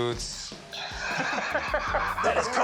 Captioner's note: laughter